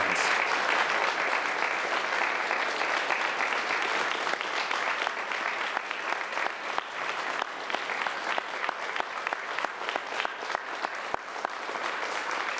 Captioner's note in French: Applaudissements